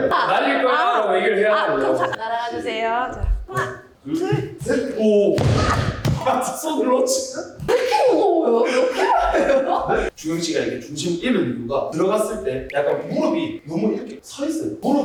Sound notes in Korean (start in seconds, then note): 5.3 풀썩